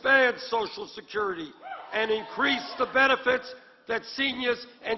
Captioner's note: applause